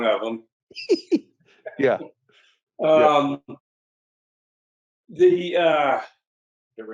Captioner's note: laughs